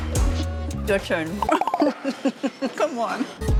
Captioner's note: laughs